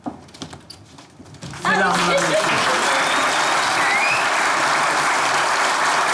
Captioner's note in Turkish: Alkış sesleri